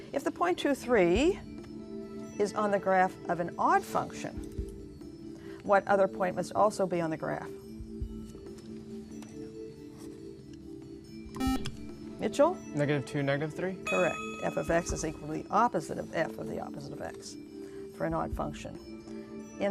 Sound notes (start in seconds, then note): 8.7 whispering; 11.4 buzzer